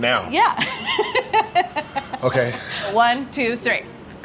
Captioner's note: laughs